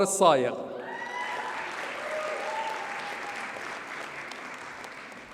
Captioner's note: audience cheers and applauds